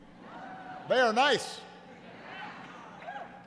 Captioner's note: laughter